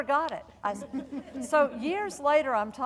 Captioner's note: audience laughing